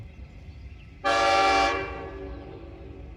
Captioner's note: horn